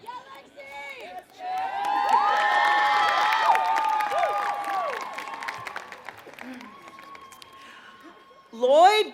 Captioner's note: applause